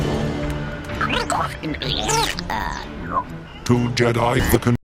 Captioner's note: Geonosian babbling